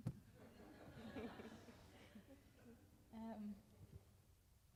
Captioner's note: audience laughs